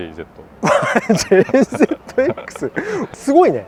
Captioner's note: laughs